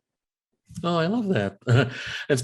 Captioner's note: giggles